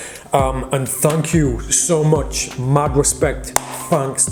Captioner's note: claps